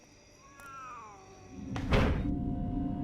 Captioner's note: cat yowls